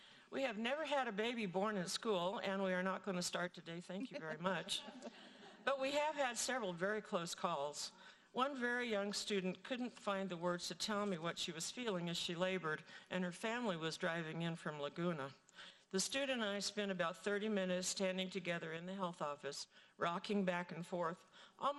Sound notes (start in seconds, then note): 4.7 audience laughing